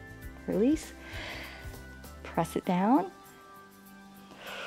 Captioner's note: inhales; exhales